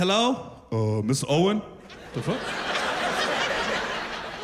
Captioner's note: deep voice; laughter